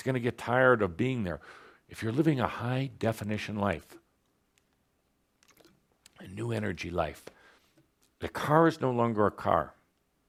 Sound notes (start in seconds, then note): none